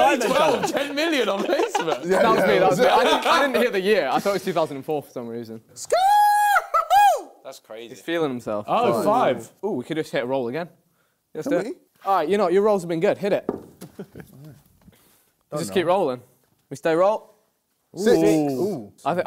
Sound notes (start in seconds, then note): 5.9 KSI yells